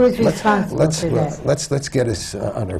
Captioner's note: laughter from the panel